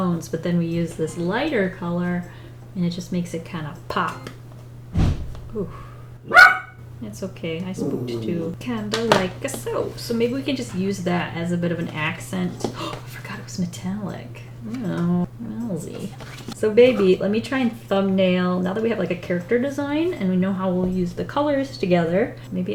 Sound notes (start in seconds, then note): 4.9 whoosh; 6.2 dog barks; 12.7 gasps